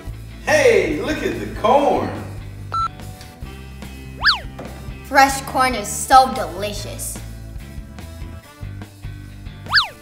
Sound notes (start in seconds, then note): 2.7 beeping; 7.3 lively music